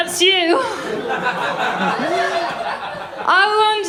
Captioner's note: laughter